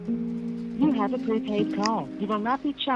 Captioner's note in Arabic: صوت آلي